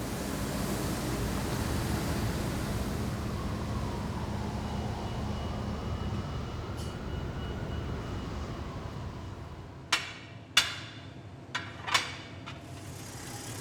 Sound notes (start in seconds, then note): 1.2 street sweeping sound; 5.0 siren in the distance